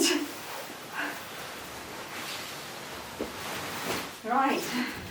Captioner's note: fabric rustling